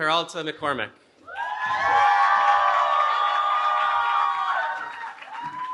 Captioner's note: cheering